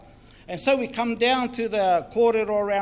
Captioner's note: foreign Language